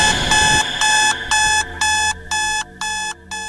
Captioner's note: alarm blaring; dramatic music